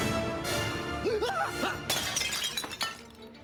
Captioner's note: dramatic music; man screams; glass clinks